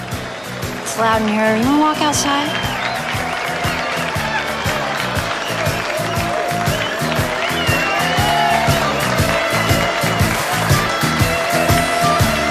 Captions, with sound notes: It's loud in here. You want to walk outside? [crowd cheering] [rock music continues]